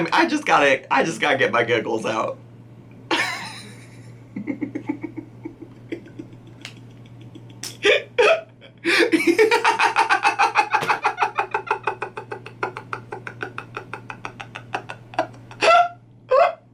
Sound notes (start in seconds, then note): 3.3 hysterical laughter; 6.7 hysterical laughter continues